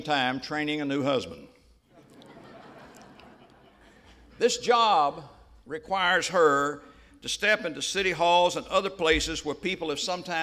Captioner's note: laughter